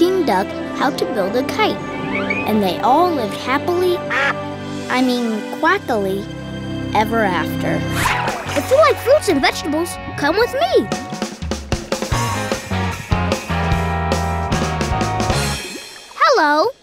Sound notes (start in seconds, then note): 4.0 quacking